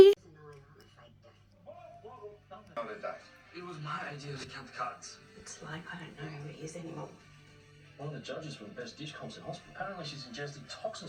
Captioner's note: sound of Neighbours on TV